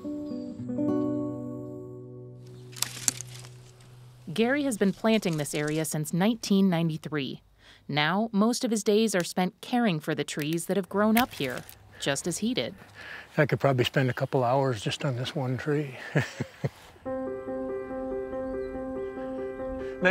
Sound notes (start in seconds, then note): 0.0 somber guitar music; 16.0 chuckles; 17.0 somber music